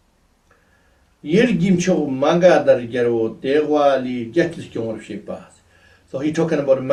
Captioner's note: tibetan